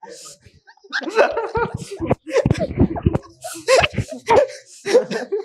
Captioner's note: हास्य